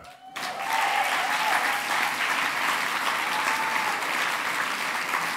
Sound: cheering, applause

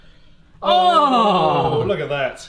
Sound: both exclaim

